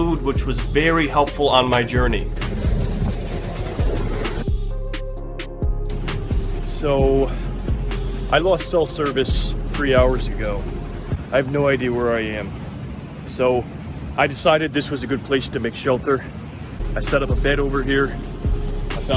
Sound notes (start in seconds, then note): 1.5 water crashing; 4.7 rhythmic music